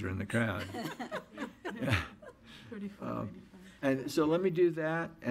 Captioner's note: audience laughs